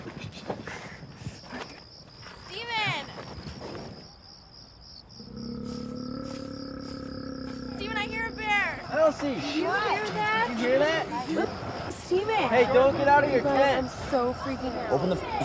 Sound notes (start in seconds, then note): 5.2 bear growling